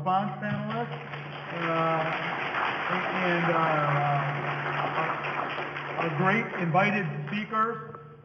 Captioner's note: audience applause